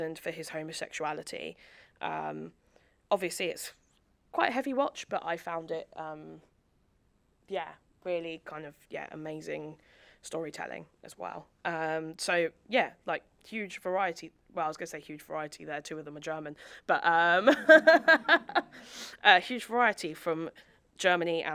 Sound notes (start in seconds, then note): 17.5 laughs; 17.6 audience laughing